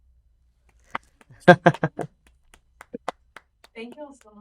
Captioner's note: applause